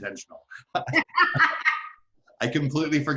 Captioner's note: both laughing